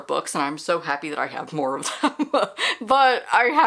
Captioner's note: laughter